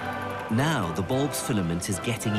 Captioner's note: voiceover